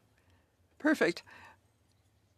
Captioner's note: speaking in French